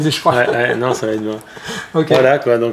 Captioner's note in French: rires